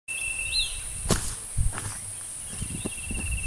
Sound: footsteps

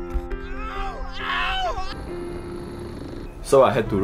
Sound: thudding; painful yelling

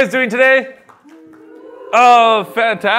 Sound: cheers

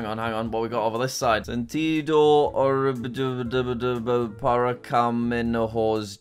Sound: speaks foreign words

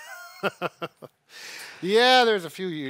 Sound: chuckles

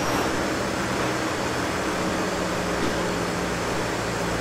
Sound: car engine roaring

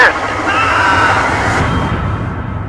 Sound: male scream

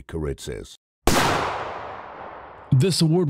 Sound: gunshot

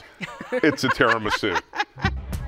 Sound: laughing

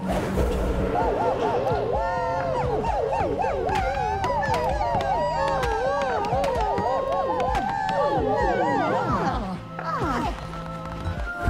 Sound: cultists cheering

